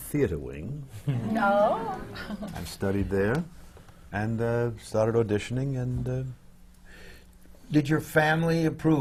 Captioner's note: murmurs from the audience